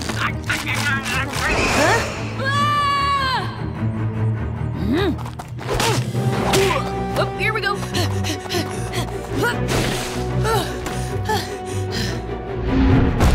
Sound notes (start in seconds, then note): 0.7 munching; 2.4 shouts